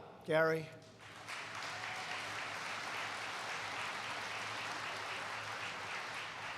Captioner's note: applause